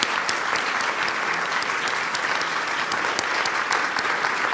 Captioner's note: applauds